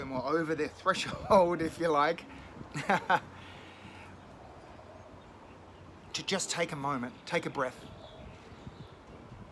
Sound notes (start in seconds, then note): 2.7 laughing